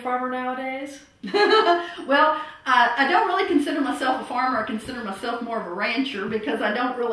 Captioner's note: laughter